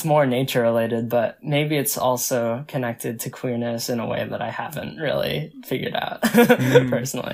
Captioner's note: laughs